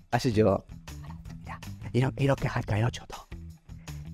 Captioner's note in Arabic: همسًا